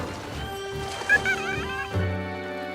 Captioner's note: chatters